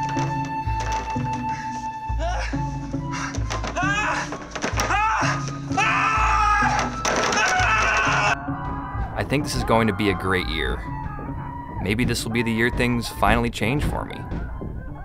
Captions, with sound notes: (screaming) I think this is going to be a great year. (muffled screaming) Maybe this will be the year things finally change for me.